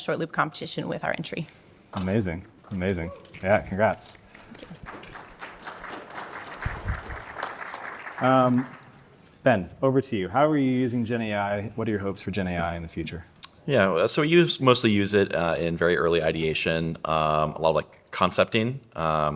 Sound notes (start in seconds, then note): 4.2 audience applauds